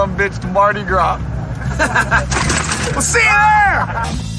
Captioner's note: laugh